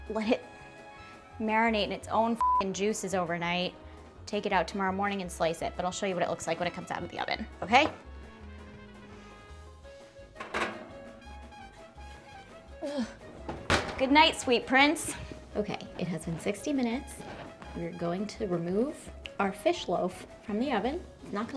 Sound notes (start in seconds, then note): 2.4 beep; 8.7 quiet upbeat music; 10.3 over door rattling; 10.4 quiet upbeat music; 12.8 groans